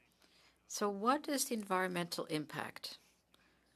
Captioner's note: speaking French